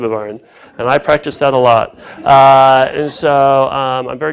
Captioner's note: laughter